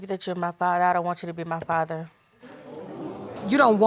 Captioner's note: audience exclaims